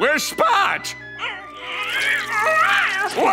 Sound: whimpering

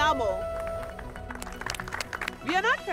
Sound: applause

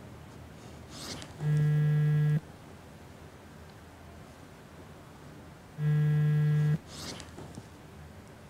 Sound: phone vibrates on table. Ringing

